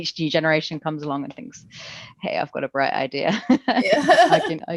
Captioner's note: both laugh